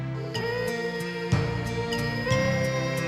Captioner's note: children humming